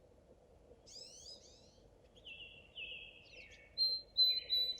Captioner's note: birds chirping